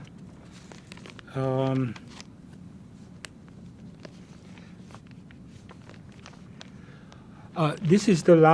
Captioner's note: pauses 8 seconds